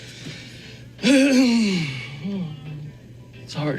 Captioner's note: man clears throat